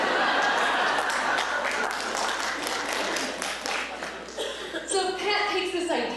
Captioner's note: laughter and clapping